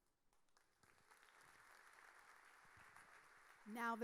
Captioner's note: audience applauding